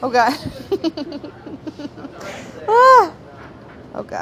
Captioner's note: giggling